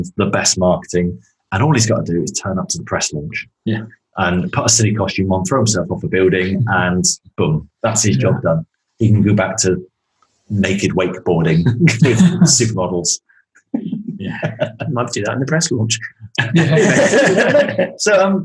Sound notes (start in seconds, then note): 14.0 laughing; 17.8 laughs